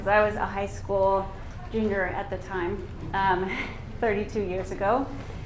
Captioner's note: laughs